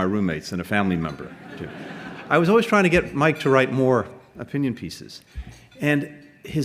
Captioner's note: laughter